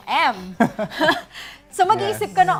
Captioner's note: chuckling